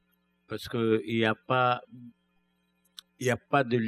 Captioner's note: speaking french